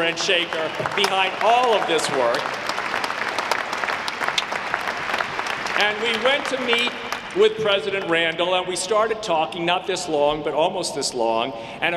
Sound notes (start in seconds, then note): 2.6 audience clapping